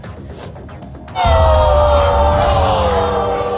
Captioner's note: cries